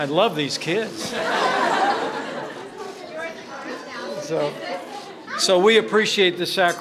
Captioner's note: laughter